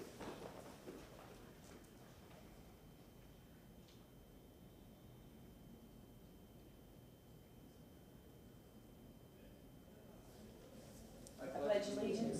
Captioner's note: moment of silence